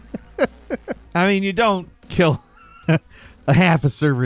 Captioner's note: Falcon laughing; laughs